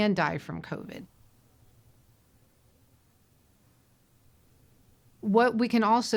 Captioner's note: silence